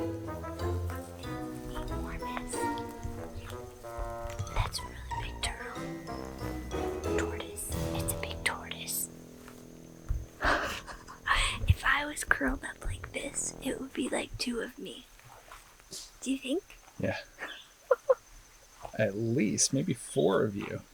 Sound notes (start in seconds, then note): 2.2 whispering; 10.4 laughs